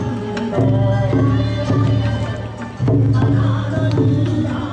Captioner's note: chants